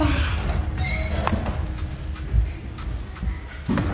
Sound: door squeaking

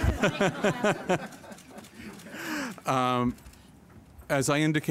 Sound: laughter

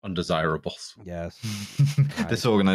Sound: laughs

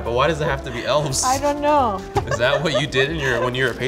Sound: laughs

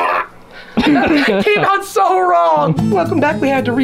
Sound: laughter

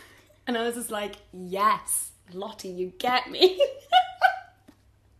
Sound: laughs

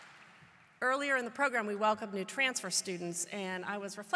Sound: applause

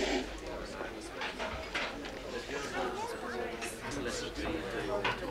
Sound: crowd murmuring

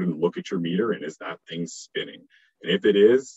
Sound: murmurs

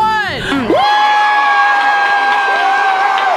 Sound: cheering

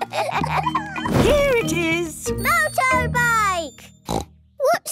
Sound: snort

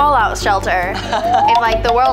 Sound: laughs

